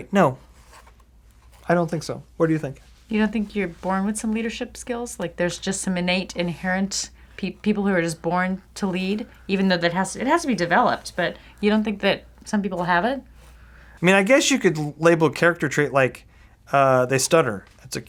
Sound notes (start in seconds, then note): none